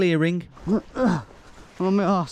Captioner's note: grunting